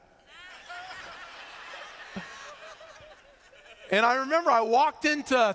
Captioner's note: laughter